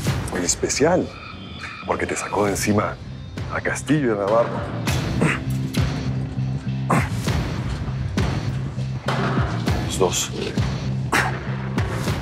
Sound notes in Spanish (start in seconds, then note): 5.0 Quejidos